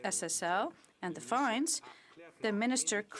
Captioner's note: speaking French